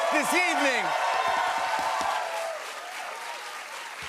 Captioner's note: cheers and applause